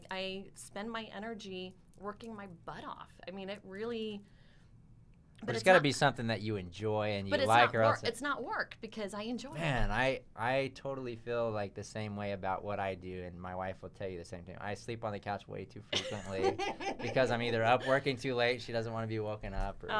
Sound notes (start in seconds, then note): 15.9 laughs